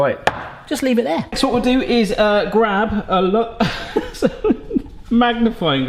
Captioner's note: laughing